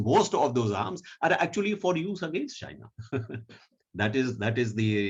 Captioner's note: chuckling